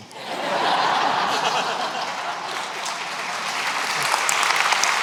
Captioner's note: laughter; applause